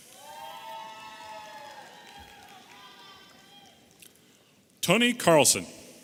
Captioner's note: audience applauding and cheering